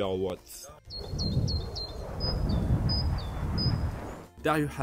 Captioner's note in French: les oiseaux sifflent